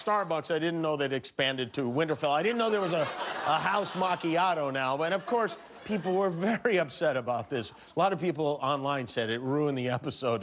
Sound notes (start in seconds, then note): 2.4 laughter